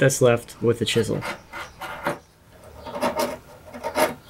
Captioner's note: chisel scrapes